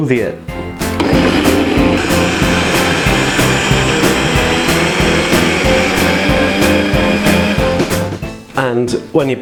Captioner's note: MUSIC and BLENDER NOISE